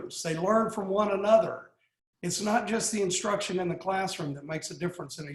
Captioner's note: none